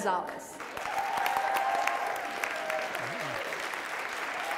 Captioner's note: audience applauds